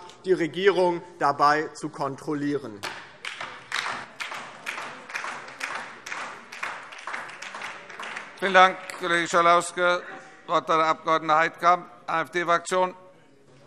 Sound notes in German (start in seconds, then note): 2.8 Beifall